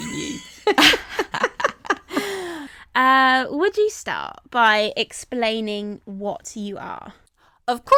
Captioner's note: all laugh